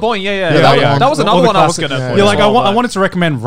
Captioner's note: murmurs